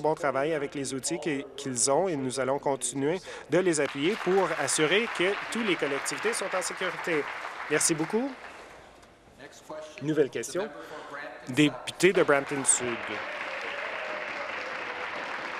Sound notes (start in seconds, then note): 6.3 applause